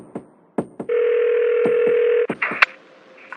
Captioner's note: phone ringing